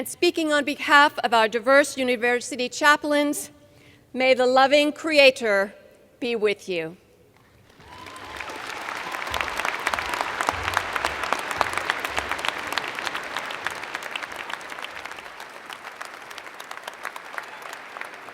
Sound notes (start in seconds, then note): 7.6 cheers and Applause